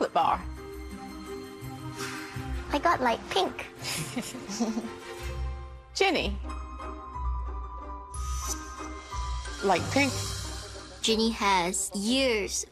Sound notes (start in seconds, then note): 3.9 chuckle softly